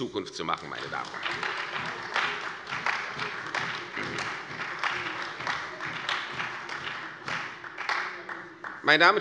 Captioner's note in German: Beifall bei der CDU und dem BÜNDNIS 90/DIE GRÜNEN